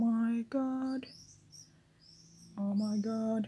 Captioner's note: birb chirping outside my window